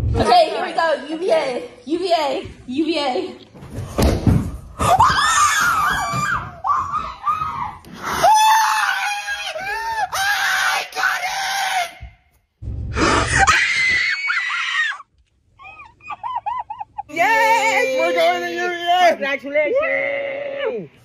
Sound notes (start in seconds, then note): 4.8 screaming; 13.1 screaming